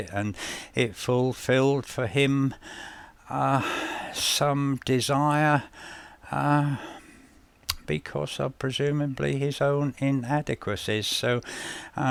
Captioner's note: sigh